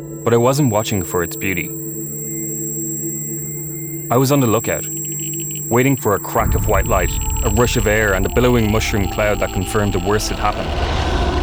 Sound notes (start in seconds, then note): 2.1 high-pitched ringing